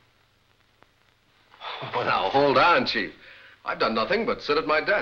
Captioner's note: scoffing